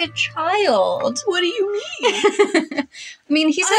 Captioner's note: laugh